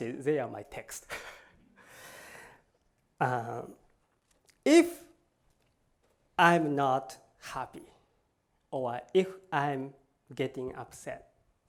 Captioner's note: laughs